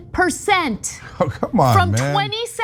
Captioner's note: laugh